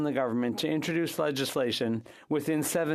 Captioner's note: speaking French